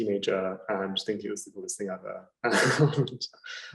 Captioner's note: laughing